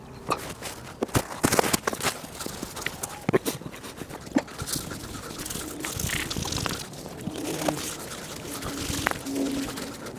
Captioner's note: speeded-up sounds of me grunting and wiping the panels with a paper towel